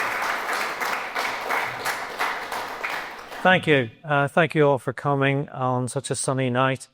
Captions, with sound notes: [APPLAUSE] Thank you. Thank you all for coming on such a sunny night.